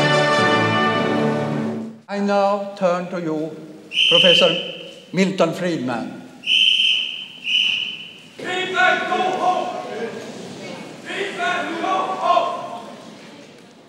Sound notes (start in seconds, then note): 7.0 shouting & blowing whistle